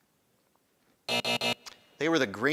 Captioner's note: buzzing